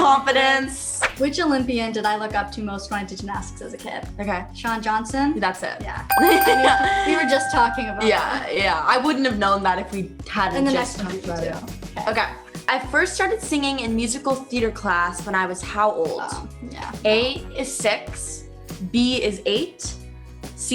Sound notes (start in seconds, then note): 6.1 dinging